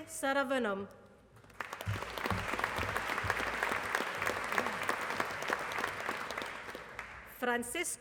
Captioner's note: applause